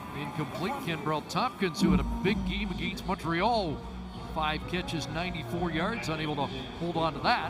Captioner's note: whistle